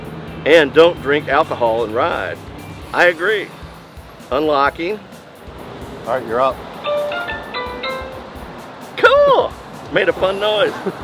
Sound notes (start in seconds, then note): 6.9 unlocking Alert Chime